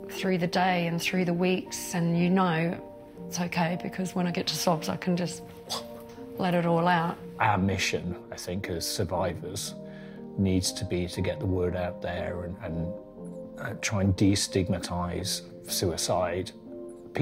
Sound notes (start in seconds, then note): 5.6 vomit sound